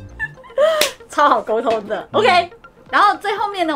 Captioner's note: laughs